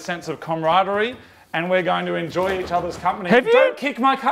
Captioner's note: bumper bar rattling